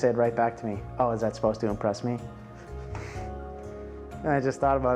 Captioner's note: chuckling